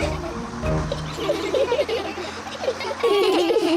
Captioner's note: all giggle